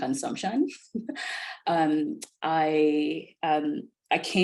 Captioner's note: laughs